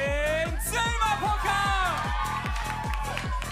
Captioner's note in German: Jubel